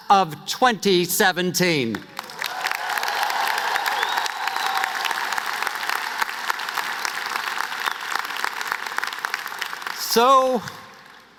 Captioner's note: cheers and applause